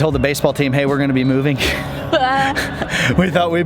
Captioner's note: both laugh